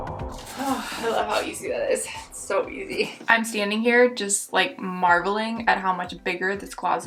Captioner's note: sigh